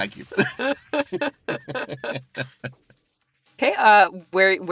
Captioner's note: laughs